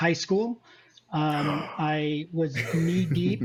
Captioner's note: gasps; laughs